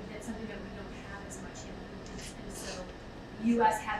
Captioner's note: speaking away from mic